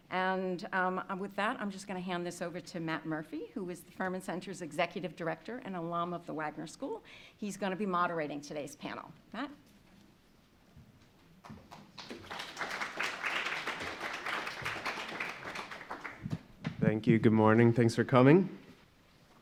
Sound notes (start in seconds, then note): 11.4 audience applauding